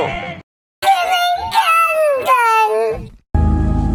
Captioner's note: high pitched voice